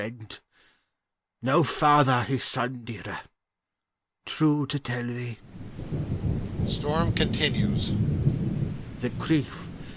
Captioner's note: storm continues